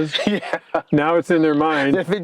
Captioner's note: laughs